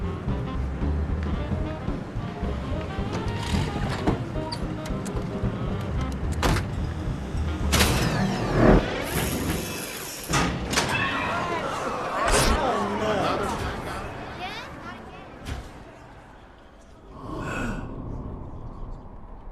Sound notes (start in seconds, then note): 10.8 people exclaiming; 17.0 sighs